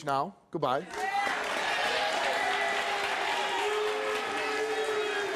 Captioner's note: audience applauds and boo's